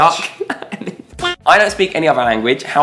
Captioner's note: laughs